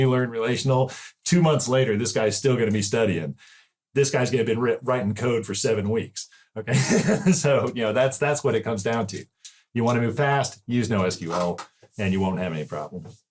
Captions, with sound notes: learn relational,” two months later, this guy is still going to be studying. This guy’s going to be writing code for seven weeks. Okay? [laugh] . So, you know, that’s what it comes down to. You want to go fast, use NoSQL and you won’t have any problems.